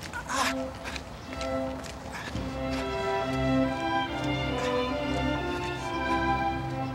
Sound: <i> Bill grunting,</i> <i> classical music continues</i>

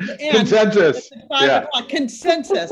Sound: laughs

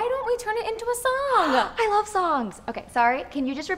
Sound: gasps

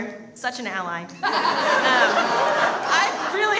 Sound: audience laughs

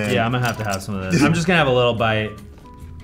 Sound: Anthony chuckles

